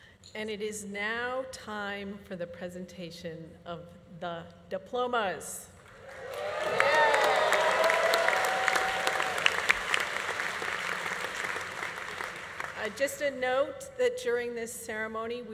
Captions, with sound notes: - And it is now time for the presentation of the diplomas. (audience applauding) (audience cheering) Just a note that during this ceremony